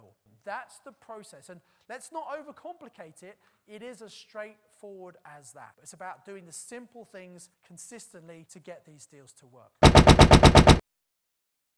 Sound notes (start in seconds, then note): 9.9 banging